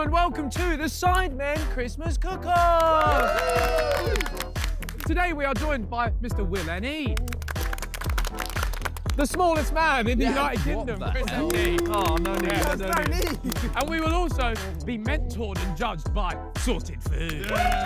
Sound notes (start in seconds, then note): 2.5 all applauding and cheering; 7.1 all applauding; 11.1 all applauding